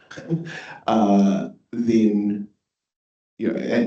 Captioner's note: laughs